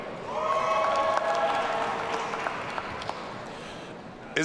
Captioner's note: audience cheering